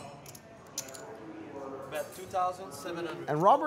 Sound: chips clack

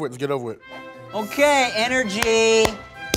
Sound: claps

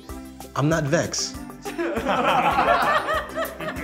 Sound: group laughs

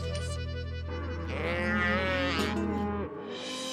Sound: bulls mooing

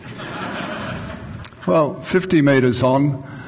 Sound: laughing

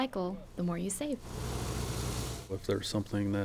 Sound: sound of construction equipment

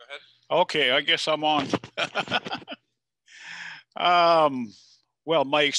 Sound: laughs

